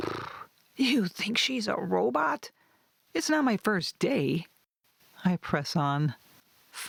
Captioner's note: blows raspberry